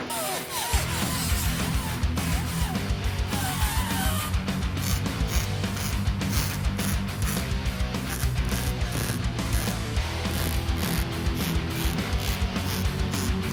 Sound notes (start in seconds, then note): 1.0 tools running